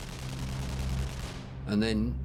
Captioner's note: distant gun fires rapidly